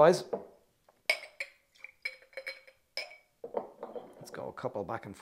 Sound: glass clinks

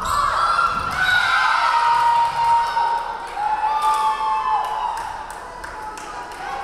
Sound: crowd cheering; referee whistling

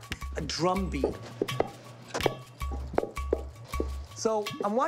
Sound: Knocking

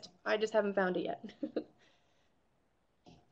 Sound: chuckles

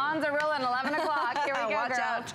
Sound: laughter

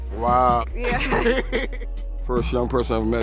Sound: laughter

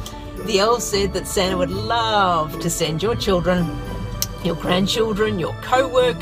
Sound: clicks tongue

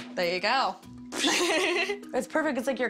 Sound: laughs

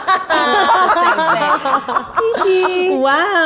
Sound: laughs

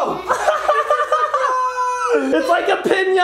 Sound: laughs

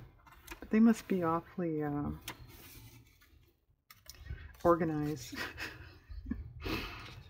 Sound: laughs

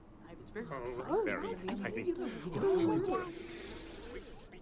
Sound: group chatting

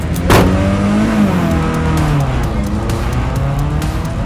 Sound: car engine revving

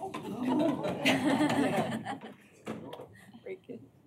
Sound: laughter

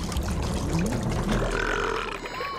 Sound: burping

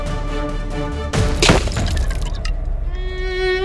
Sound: pot breaks

